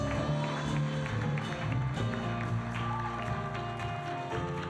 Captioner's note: cheering, applause